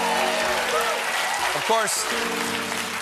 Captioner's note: applause; piano riff